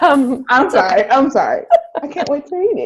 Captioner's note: both laugh